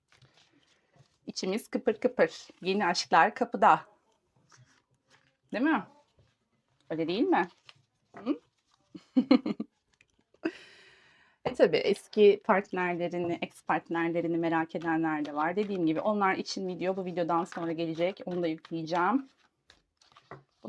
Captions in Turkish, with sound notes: İçimiz kıpır kıpır. Yeni aşklar kapıda değil mi? Öyle değil mi? H [kahkaha] tabii eski partnerlerini, partnerlerini merak edenler de var. Dediğim gibi onlar için video bu videodan sonra gelecek. Onu da yükleyeceğim.